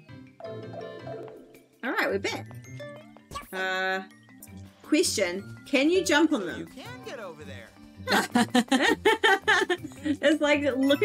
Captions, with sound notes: [cartoonish voices end] All right, we're back. Uhhh, question? Can you jump on them? [both laugh] It's looking towards the background.